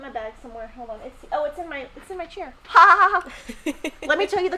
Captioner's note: laughing